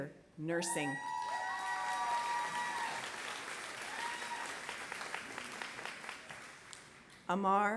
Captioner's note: applause